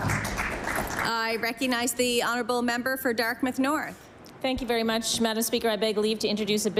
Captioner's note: applause